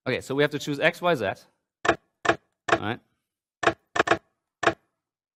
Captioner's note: mechanical clacking